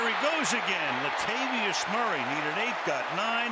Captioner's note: cheering